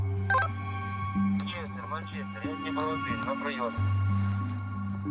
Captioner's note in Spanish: Audio hablado en ucraniano